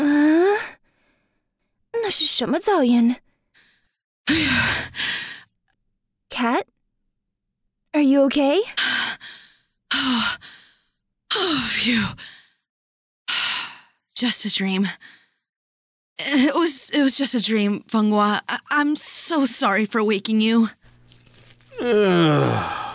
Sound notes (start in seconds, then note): 0.9 waking up, In Mandarin; 5.2 cat takes deep breaths